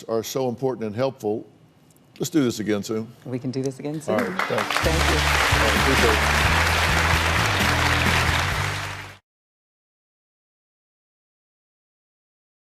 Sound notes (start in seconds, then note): 6.7 audience applauding